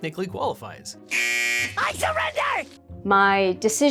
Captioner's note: buzzer